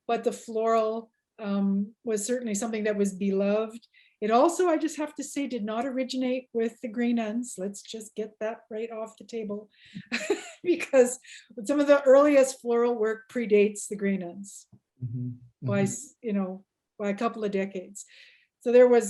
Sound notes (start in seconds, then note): 9.6 laughs